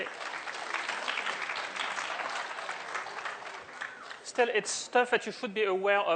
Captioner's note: applause